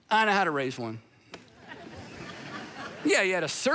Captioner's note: congregation laughing